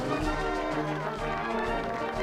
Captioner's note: applause